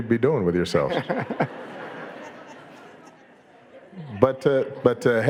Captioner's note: audience laughing